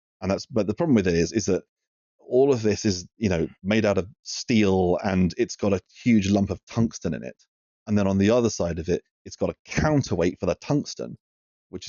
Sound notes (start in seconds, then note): none